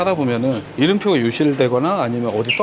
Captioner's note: laughs